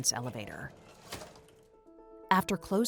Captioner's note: elevator door clacks